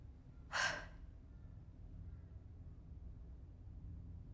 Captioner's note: Emma sighs